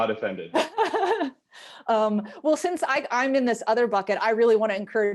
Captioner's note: laughs